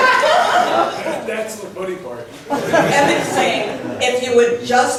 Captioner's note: laughs; laughs